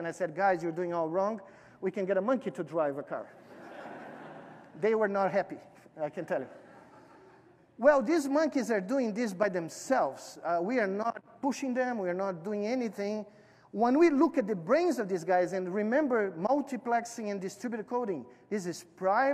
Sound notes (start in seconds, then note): 6.4 laughter